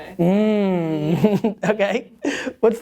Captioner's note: laughs